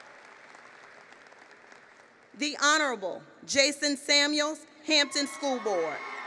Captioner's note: applause; applause